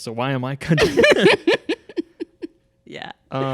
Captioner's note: hearty laughter